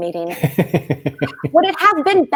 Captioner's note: laughing